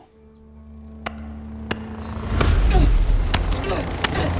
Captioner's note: pounding